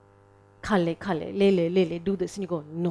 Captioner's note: speaking in foreign language